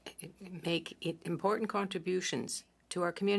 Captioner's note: speaking French